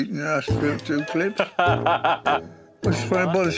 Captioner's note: laughs